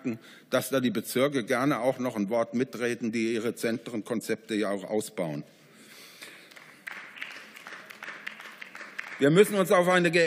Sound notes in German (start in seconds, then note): 6.2 Beifall